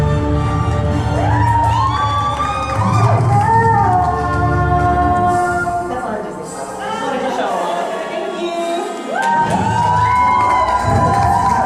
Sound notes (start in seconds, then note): 0.4 applause; 2.3 singing; 9.1 applause; 10.3 singing